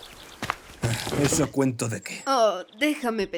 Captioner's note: sighs